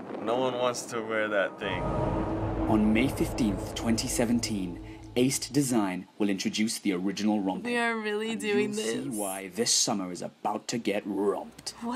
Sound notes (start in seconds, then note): 2.8 voice-over; 9.6 voice-over